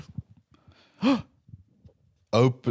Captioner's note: gasps